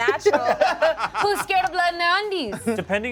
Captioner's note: cast laughs